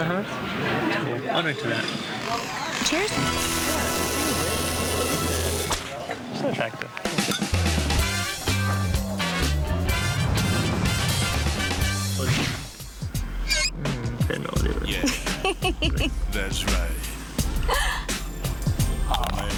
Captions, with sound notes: - Uh-huh. I'll drink to that. - Cheers. - Okay. (upbeat music) 10 milliliters. (laughing) (sexy music)